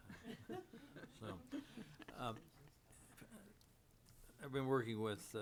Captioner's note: board members laughing